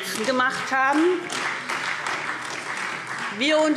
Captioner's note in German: Vereinzelter Beifall SPD, Freie Demokraten und DIE LINKE